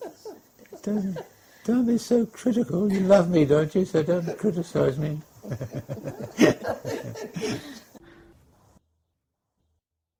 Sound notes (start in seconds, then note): 7.4 laughter